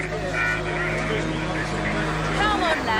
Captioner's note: indistinct conversations